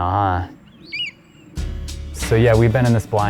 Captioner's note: chirp